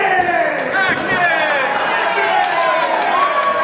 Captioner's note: crowd